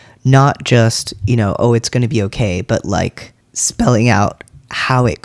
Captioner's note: none